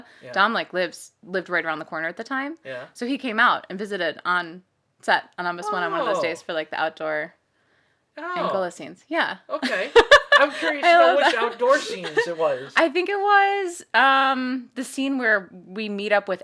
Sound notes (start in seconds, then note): 9.6 laughing